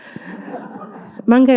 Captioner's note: audience laughing